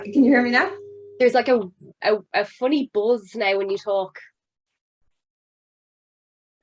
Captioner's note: feedback coming through